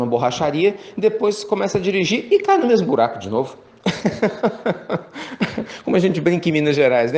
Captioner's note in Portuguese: Risos